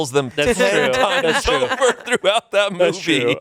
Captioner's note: laughs